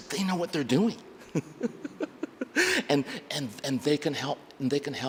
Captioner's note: laughs